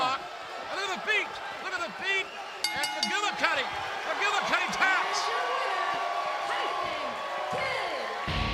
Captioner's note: bell ringing